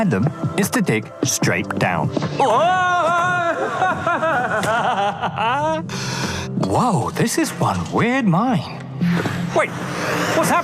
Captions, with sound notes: And the fastest way to find them is to dig straight down. [Echoing screams] [Screams turn to laughter] Whoa! This is one weird mine.